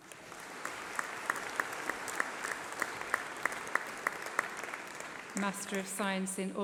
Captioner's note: applause